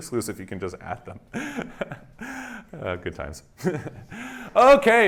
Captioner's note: laughs